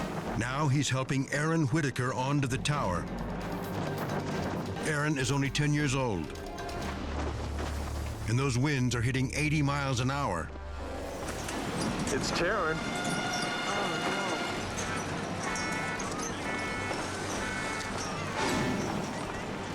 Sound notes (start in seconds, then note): 15.0 dramatic music continues; 16.2 siren beeping